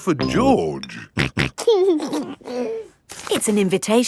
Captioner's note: snorting and giggling